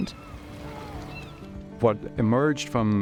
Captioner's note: bird calling